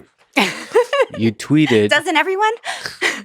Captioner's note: laughs